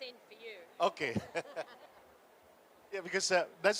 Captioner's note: laughs